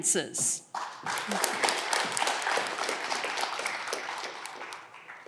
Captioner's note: audience clapping